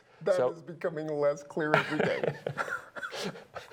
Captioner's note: laughter